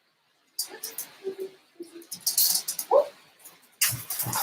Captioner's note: distant humming